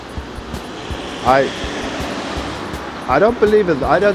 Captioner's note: car engine revving